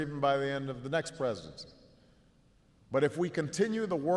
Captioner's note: none